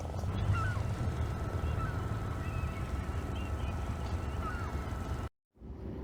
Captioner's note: wheel clicks on and starts whirring; seagull noises in the background; distant boat noises